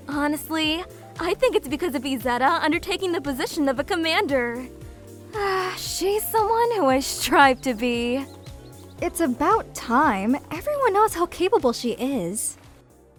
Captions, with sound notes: Honestly… I think it’s because of Izetta undertaking the position of a commander. (Admiring sigh) She’s someone who I strive to be... It’s about time. Everyone knows how capable she is.